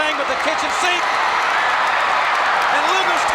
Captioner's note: crowd cheers